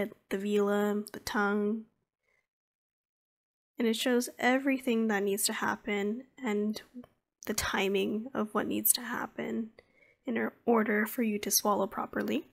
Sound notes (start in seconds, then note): none